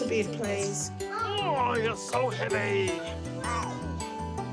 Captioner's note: grunts